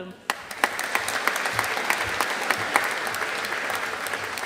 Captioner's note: audience applauding